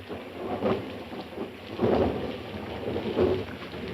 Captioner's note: thunder rumbling